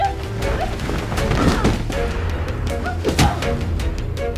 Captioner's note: thudding